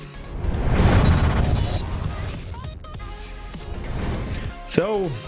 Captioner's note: air whooshes; electricity buzzing